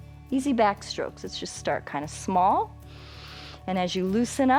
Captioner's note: inhales